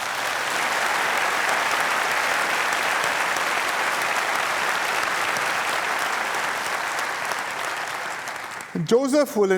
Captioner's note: applause